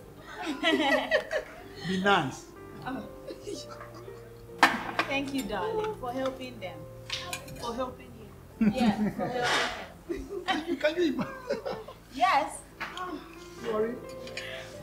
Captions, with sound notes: [Laughter] Binance. Thank you darling for helping them. For helping him. Yes, for helping him. [Laughs] Yes.